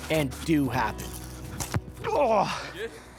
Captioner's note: grunts in pain